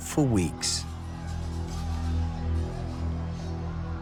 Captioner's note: clamouring